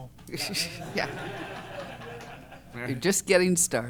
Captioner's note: laughter